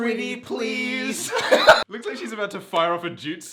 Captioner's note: laughs